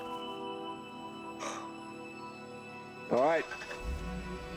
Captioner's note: sighs